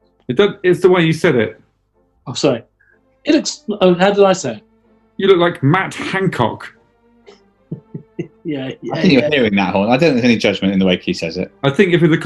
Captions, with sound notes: I don't... It's the way you said it. I'm sorry. He looks – oh, how did I say it? "You look like MATT HANCOCK". [CHUCKLING] Yeah, yeah. I think you're hearing that, Horne – I don't think there's any judgement in the way Key says it.